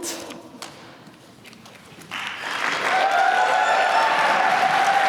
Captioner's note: applause